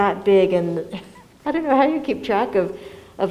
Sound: laughs

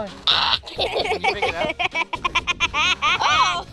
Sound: laughing

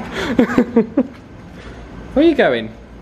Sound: chuckling

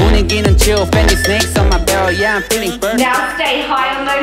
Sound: timer beeps

